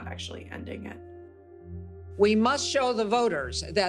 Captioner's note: soundbite of archived recording